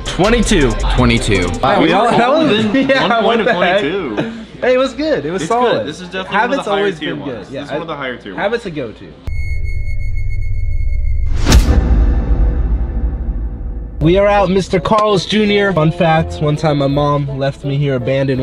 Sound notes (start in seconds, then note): 1.9 murmur; 9.2 eerie music